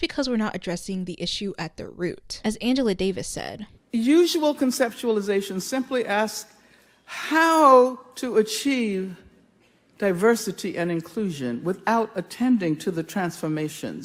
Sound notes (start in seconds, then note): none